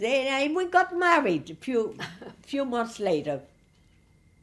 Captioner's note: laughing